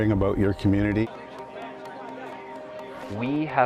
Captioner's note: people chattering